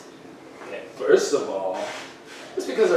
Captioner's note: mockingly